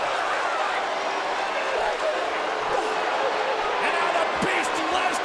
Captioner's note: crowd clamoring